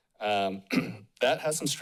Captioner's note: clears throat